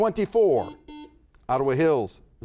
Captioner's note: buzzer buzzes